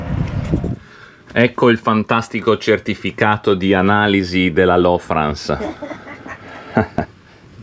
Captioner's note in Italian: risate